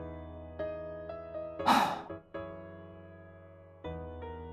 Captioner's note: sigh